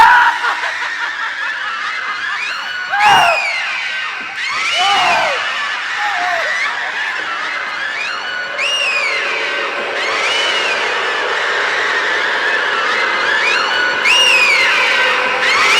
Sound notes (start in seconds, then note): 0.0 Mina laughs, manically; 3.5 Mina laughs manically